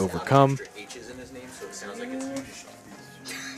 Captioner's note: indistinct chatter